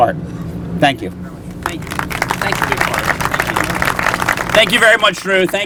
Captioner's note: applause